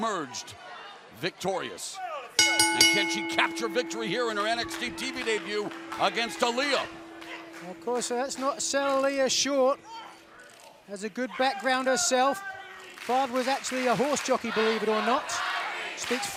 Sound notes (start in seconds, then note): 2.1 bell ringing